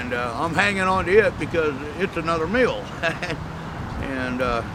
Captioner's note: chuckles